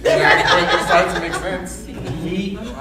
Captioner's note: audience laughing